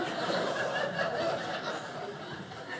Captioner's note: audience laughing